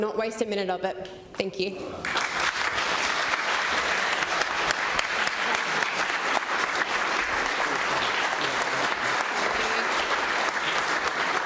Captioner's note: applause